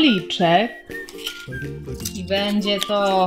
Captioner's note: rustling of paper